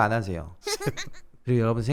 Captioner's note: laughing